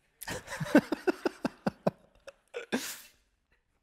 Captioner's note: laughing